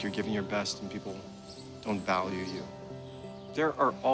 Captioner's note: none